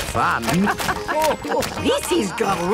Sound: laughing

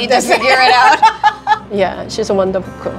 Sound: both laughing

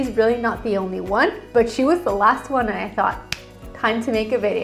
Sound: hand smacking

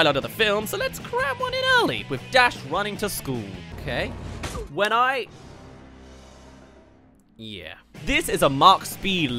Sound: crashes

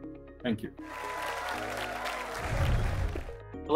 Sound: applause

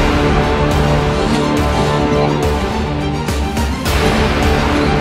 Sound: coughing

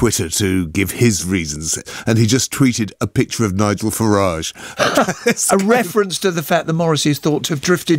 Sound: laughter

